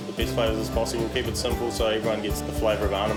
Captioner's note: water splashing; upbeat instrumental music